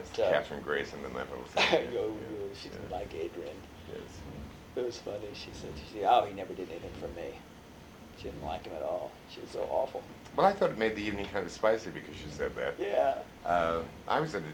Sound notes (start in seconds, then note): 1.4 laughs